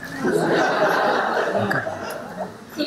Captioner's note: laughing